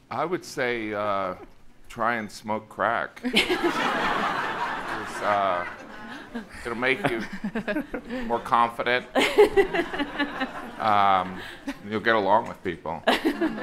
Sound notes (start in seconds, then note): 3.3 audience laughing